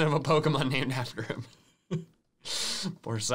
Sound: laughs

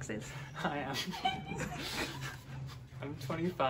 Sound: laughing

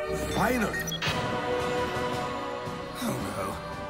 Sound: remote beeps; beeping

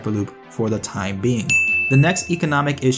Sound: bell ringing in Intellectual Propety Theft-a-nese

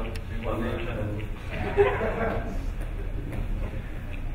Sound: laughing

